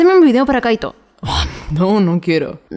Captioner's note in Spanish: Suspiro